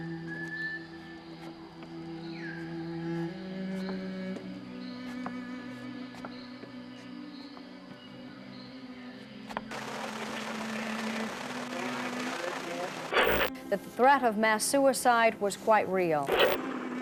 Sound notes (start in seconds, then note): 9.7 electrical static; 16.3 muffled helicopter